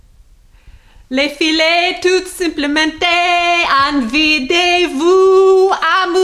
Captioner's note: woman speaks foreign language